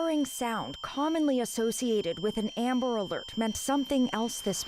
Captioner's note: alarm sounding